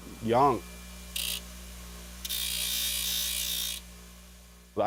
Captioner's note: whirring